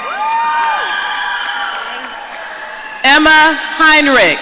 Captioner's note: audience cheering